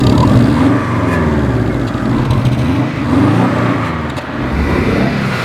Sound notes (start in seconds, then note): 0.0 engine RPM grow; 1.6 gloomy rumble of boxer engine